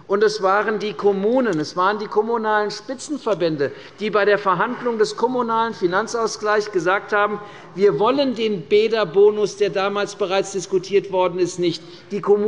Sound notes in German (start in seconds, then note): none